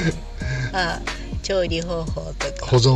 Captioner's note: laughs